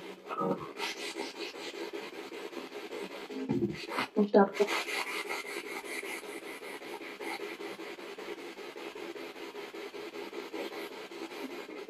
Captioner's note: radio noise from the spirit box